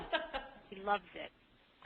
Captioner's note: laughter